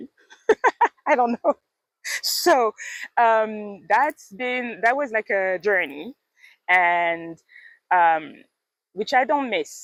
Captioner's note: laughs